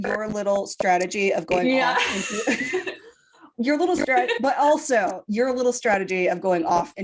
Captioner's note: laughing